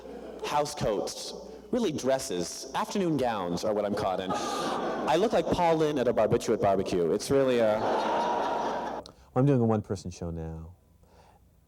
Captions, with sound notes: House coats. Really dresses, afternoon gowns are what I'm caught in. I look like Paul Lynde at a barbiturate barbecue. It's really ah, [Laughter] I'm doing a one person show now.